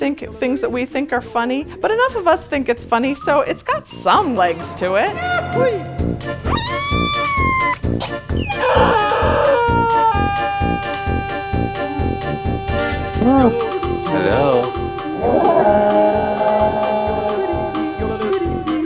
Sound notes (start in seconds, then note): 6.4 rubber chicken squeaks; 15.4 yodeling music